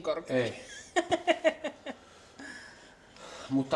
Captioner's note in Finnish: naurua